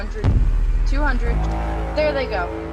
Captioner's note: alien warhorn; unearthly shrieks